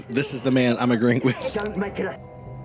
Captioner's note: laughs